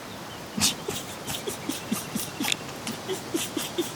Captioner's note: laughing